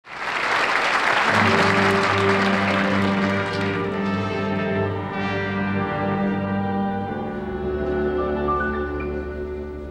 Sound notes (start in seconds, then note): 0.0 audience applauds; 2.1 slow orchestral music